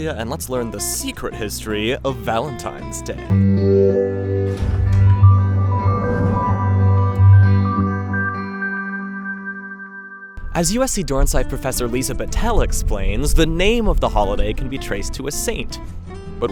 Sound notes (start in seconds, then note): 3.6 bright reflective music; 4.7 door clicks